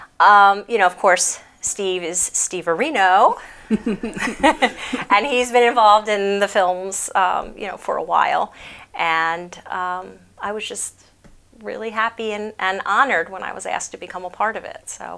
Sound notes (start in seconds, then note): 3.4 chuckles